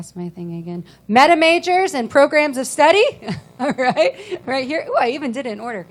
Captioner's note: laughing